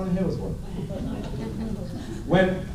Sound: laughter

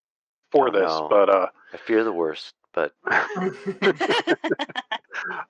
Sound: laughter

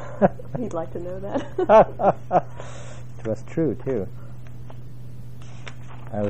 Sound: laugh

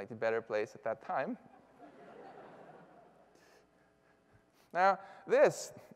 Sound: laughter

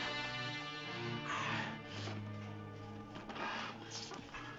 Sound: gasping

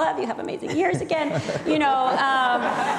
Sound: people laughing

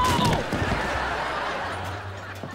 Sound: screaming; laughing

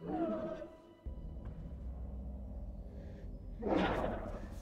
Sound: dinosaur growls

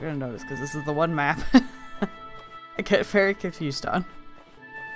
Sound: laughs

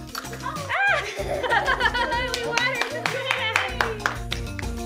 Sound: laughter and cheering

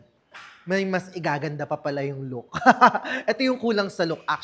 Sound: laughs

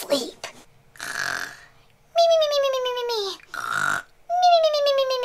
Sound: chipmunks snoring

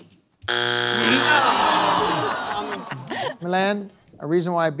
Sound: buzzer sounds

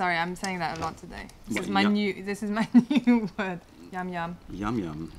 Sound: laughter

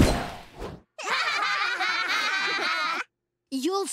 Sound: laughing

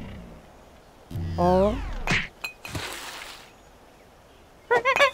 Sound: alien talk

